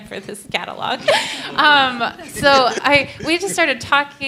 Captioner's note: laughter